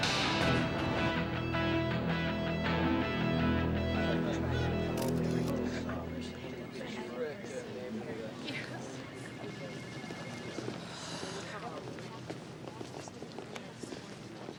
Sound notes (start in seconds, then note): 4.3 people chattering; 5.0 camera clicking; 6.3 phone ringing